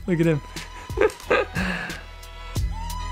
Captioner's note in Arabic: ضحكات خافتة